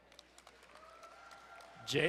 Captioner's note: crowd cheering and applauding